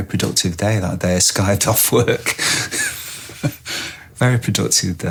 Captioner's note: laughs